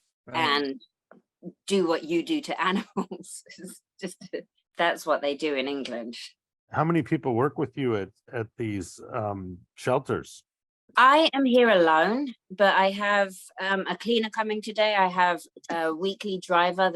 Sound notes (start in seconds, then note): none